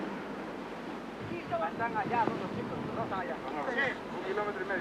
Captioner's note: Spanish language